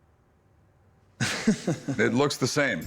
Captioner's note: chuckles